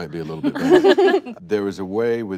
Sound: chuckles

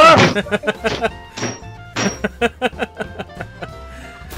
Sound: slams desk; laughter

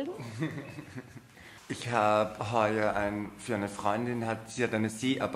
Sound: giggles

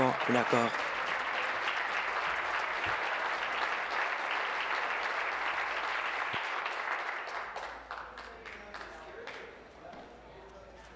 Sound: applause

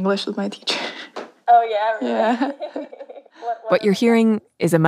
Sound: laughs

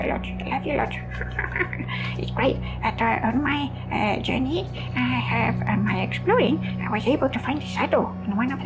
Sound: chuckles

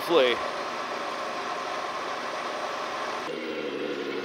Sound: motor revving loudly; engine revving loudly

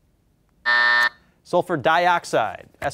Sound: buzzer

